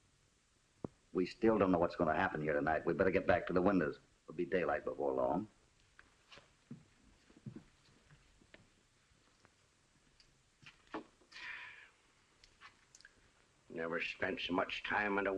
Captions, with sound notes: We still don't know what will happen here tonight. We better get back to the windows. It will be daylight before long. [ SIGHS ] I never spent so much time in a window